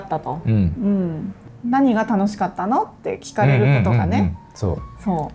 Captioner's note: laughs